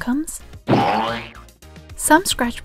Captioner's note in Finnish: Boing